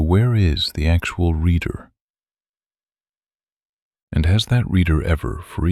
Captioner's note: pause